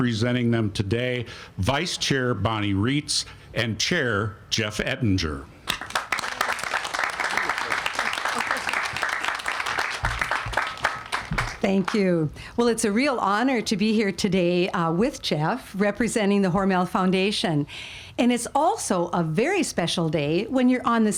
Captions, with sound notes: and representing them today, Vice-chair Bonnie Rietz and chair Jeff Ettinger. (all applauding) - Thank you. Well, it's a real honor to be here today with Jeff, representing The Hormel Foundation. And it's also a very special day